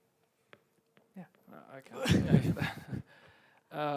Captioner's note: all laugh